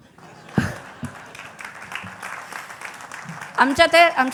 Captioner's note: laughter and Applause